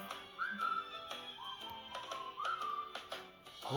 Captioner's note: whistle